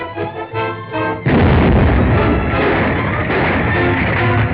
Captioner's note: explosion; ground rumbling